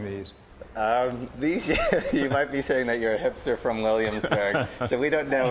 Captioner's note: laughter; laughter